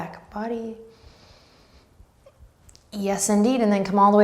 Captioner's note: breathing deeply